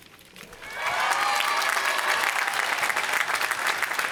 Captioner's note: applause